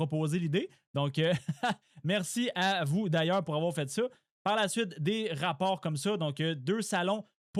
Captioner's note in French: rires